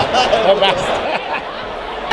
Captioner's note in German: lacht